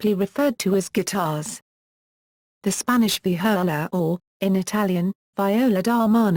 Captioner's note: in Italian